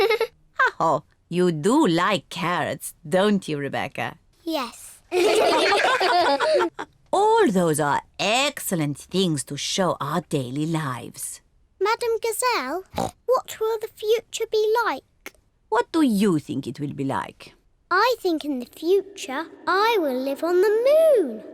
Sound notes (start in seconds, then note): 5.1 all laugh